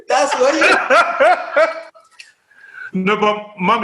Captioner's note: laughter